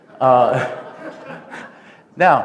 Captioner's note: laughter